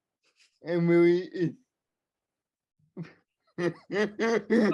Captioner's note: laughing; laughing